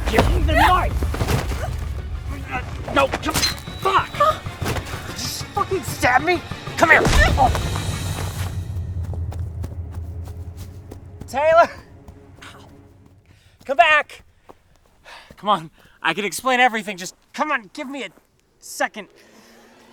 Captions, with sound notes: Give me the knife! (grunting) No, come on-- [stabbing sounds] Fuck! Did you just fucking stab me?! Come here-- (grunting) Taylor! Come back! Come on. I can explain everything. Just come on. Give me a second.